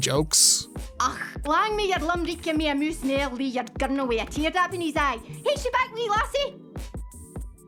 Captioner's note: speaking in heavy Scottish dialect